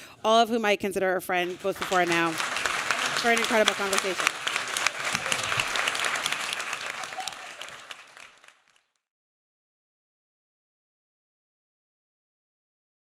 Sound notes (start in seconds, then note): 4.1 applause